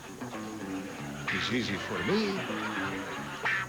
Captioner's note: spanish accent